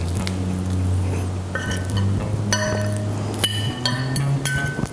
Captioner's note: utensil hitting plate